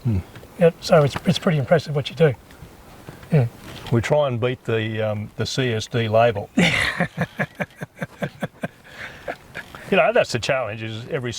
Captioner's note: laugh